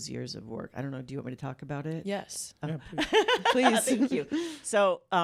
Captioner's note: laughter